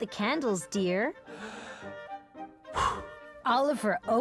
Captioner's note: inhaling, blowing